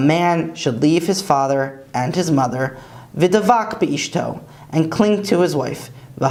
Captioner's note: Hebrew; Hebrew